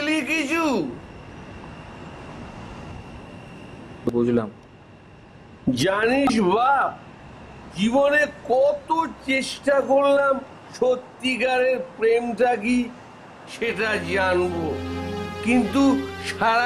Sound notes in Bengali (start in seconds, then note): none